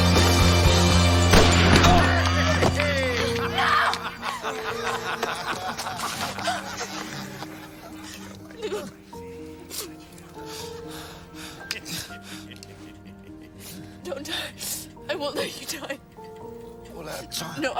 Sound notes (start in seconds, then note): 2.8 Harry laughing